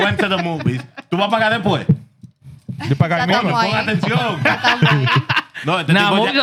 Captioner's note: laughing; speaking Foreign Language